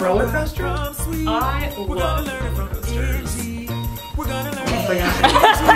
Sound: laugh

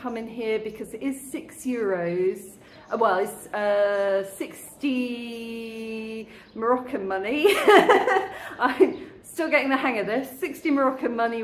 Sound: laughing

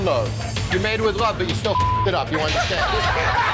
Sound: beep

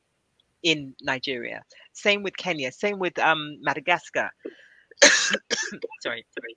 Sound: coughs

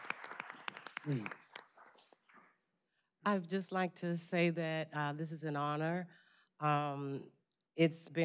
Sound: applause

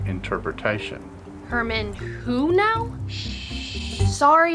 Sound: shushing

